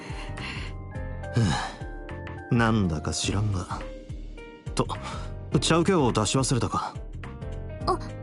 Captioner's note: sigh